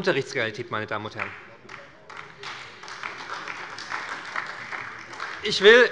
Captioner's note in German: Beifall bei der SPD